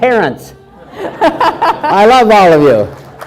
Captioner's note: all laugh